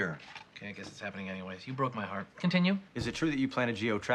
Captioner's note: quietly